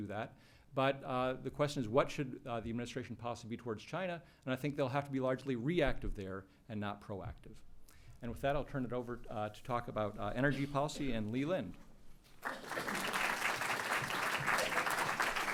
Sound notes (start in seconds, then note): 12.4 applause